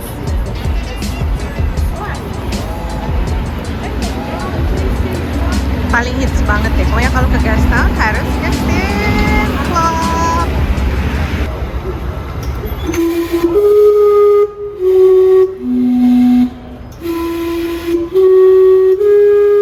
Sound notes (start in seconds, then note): 12.8 steam clock sound